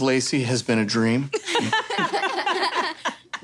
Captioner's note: laughing